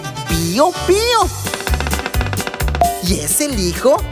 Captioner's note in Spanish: Sonido de pájaro carpintero